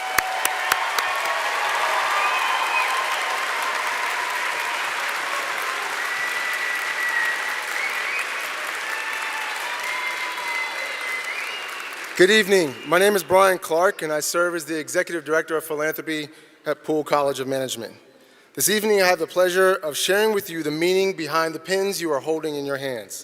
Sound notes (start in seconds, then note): 5.1 cheering; 8.1 applause